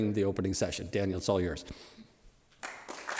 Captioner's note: applause